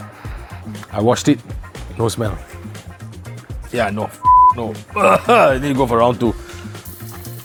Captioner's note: beep